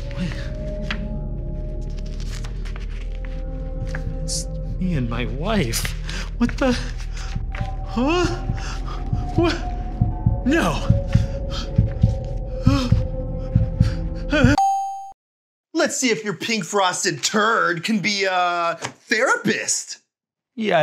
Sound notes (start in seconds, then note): 1.9 photos rustling; 7.1 heart beating; 14.2 whimpers; 14.6 check mark dings